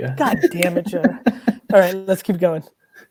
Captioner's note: laughs